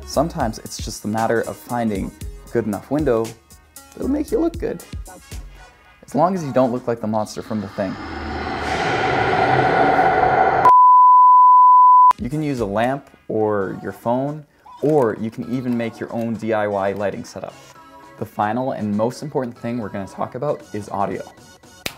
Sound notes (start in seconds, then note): 7.1 mysterious music; 10.6 beeping